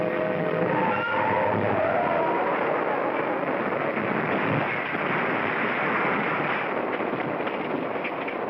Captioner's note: train whistle blows; tires squeal & crashing sounds; clattering sounds